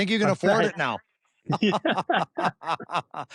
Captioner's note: laughter